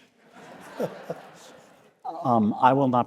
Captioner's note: audience laughing